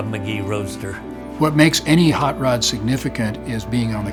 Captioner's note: pat